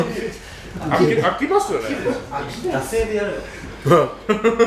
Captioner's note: laughs